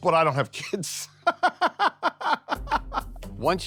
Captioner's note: laughing; mellow music